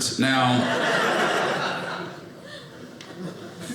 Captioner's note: audience laughing